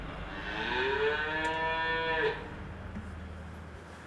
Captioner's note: cow mooing